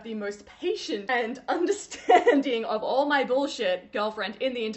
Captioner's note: laughing